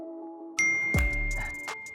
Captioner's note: bell ring